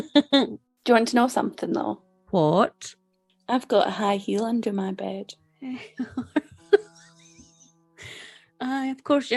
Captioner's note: laughs